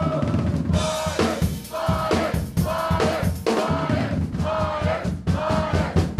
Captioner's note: group chanting